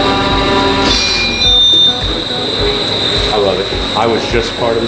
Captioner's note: machine beeps